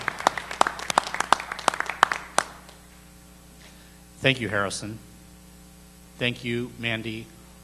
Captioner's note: applause